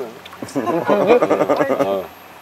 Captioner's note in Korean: 웃음